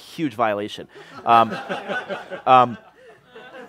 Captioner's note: laughter